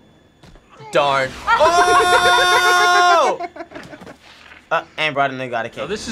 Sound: both laugh

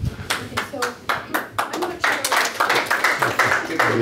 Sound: audience applauds

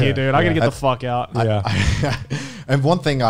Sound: laughs

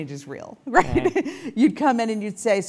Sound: laugh

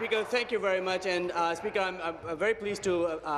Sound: applause

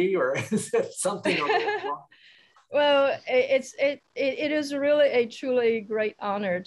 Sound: laughs

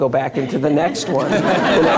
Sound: laughter

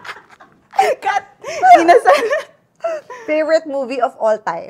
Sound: laughs

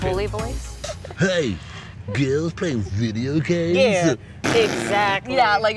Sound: blows raspberry

